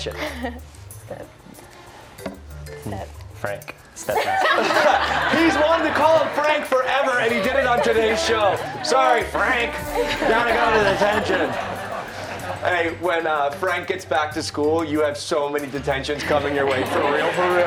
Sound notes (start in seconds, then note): 16.6 laughter